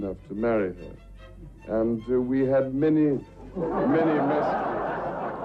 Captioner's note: audience laughs